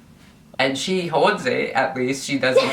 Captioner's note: laughs